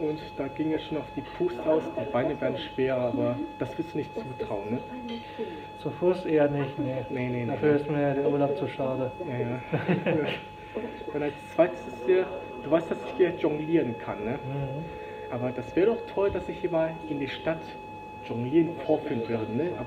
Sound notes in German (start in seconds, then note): 9.4 Er lacht